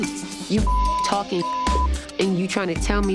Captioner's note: beep